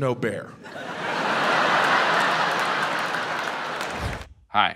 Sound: audience laughs

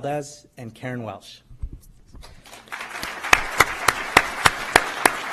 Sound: applause

